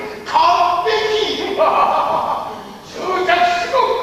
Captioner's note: proud laughter